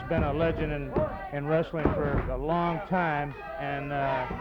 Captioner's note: hands thudding